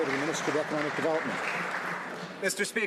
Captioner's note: some Applause